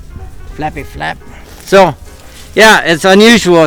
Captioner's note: leaves crunching